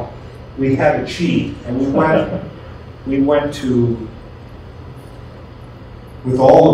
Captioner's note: laughs